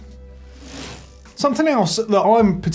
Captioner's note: bike chain whirring